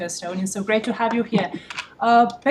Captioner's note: laughter